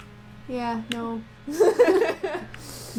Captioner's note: laughter